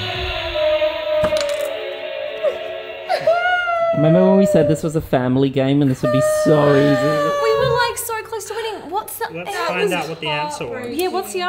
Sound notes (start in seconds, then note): 3.0 sobbing loudly